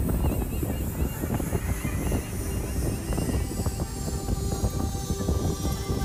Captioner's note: graphic buzzing; tense music; bright music